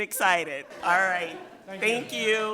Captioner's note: people laughing